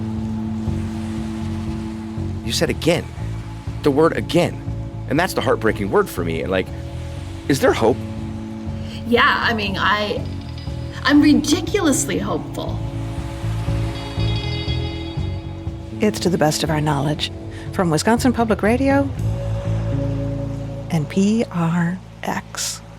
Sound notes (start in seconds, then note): 0.2 experimental jazz music continues; 12.9 experimental jazz music; 12.9 rain pattering